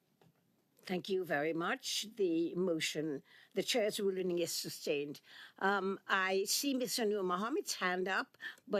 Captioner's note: speaking French